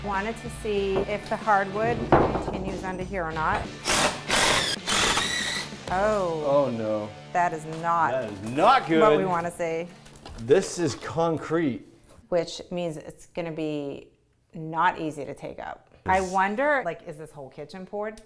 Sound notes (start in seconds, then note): 3.7 drill whirring